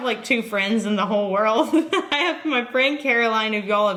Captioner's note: giggles